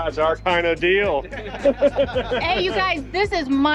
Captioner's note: laughs